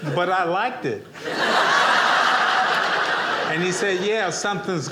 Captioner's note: audience laughing